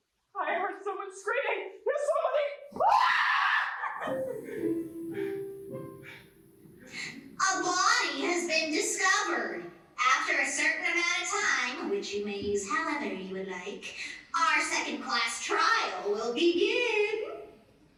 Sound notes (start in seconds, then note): 4.1 ding dong bing bong